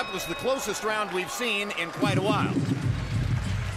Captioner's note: bell rings